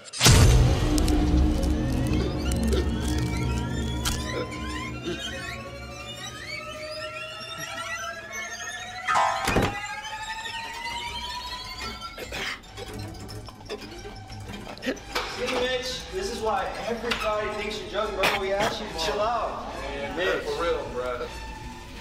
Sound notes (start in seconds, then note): 0.2 Mitchell chokes; 0.2 knife squelches; 9.2 body thuds; 12.1 Mitchell chokes